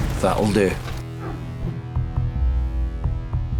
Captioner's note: swoosh